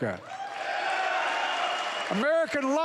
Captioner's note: applause